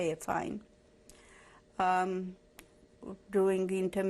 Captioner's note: pauses for 3 seconds